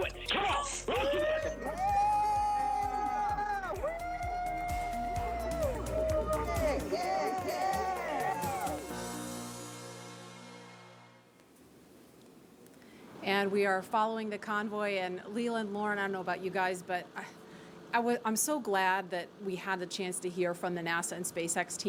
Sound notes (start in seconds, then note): 8.3 cheering